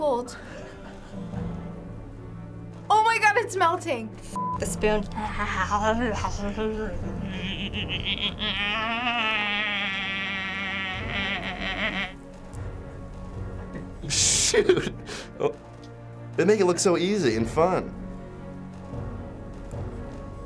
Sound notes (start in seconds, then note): 0.5 Finebros laughs softly; 5.1 cackles and munches loudly; 6.9 creepy giggle; 14.4 laughing